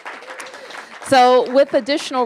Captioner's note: applause